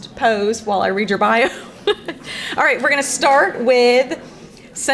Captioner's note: laughs